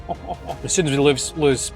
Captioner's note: laughs